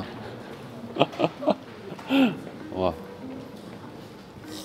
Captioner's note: disconcerted laughing sound